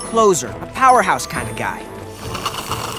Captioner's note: slurps